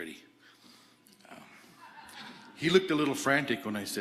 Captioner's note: audience laughing